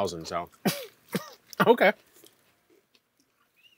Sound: coughs

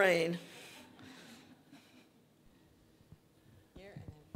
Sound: audience laughing

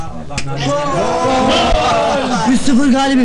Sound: 'Gooalll' shouting

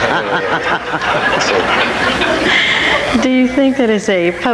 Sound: all laughing; audience laughing

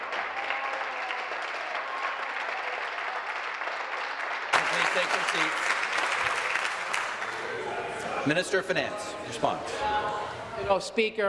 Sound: applause

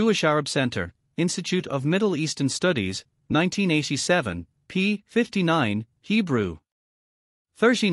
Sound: Hebrew

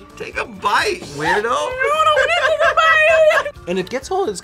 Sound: laughs

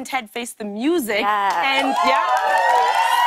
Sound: cheers and applause

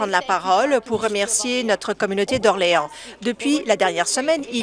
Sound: speaking French

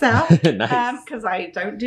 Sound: laughing

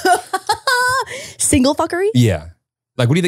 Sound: laughing

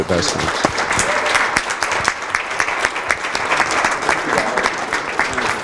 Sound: applause

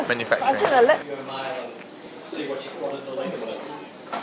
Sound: office sounds

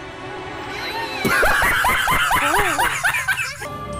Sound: Mutahar Dying of Laughter

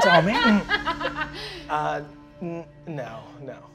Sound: laughing

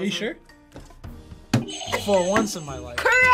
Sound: buzzer rings

